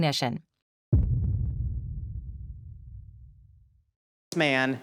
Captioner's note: dramatic thud